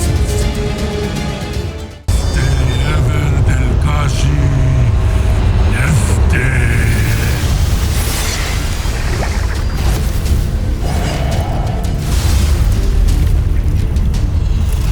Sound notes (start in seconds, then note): 0.0 music intensifies; 6.9 weapons swoosh; 7.7 sparkling whoosh; 10.1 evil energy whoosh & crackle; 10.1 tense music playing